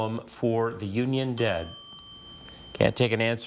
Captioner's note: buzzer chimes